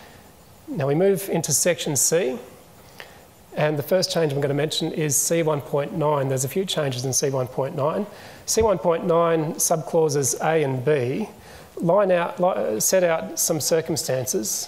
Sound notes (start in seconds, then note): none